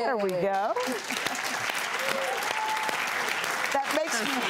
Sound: audience applauds

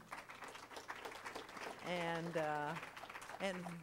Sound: crowd applauding

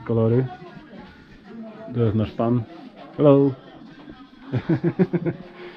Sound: laugh

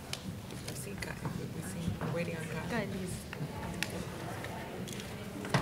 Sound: speaking faintly off mic

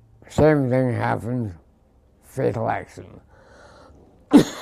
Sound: cough

